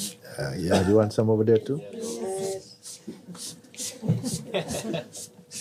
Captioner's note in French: rires